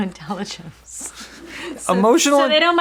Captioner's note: chuckling